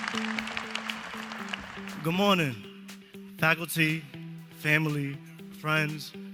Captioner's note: applause